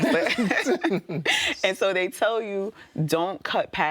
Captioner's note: laughing